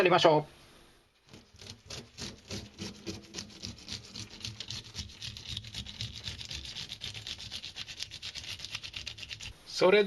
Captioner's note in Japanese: 鱗が取れる音